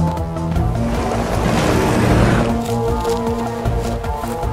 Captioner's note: engine revving